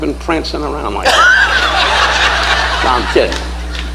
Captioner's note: audience laughing